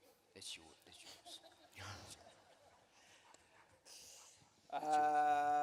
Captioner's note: laughter